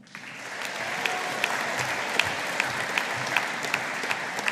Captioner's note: audience applauding